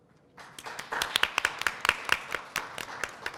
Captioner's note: applause